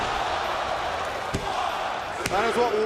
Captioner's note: crowd cheering